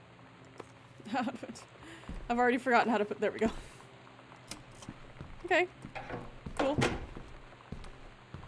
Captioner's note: laughs